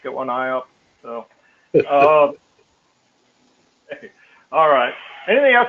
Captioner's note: laugh